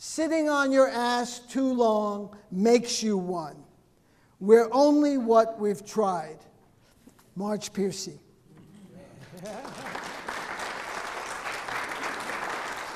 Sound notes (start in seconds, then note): 9.2 audience clapping